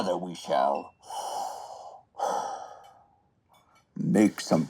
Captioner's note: heavy breath